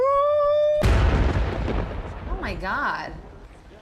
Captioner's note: thunder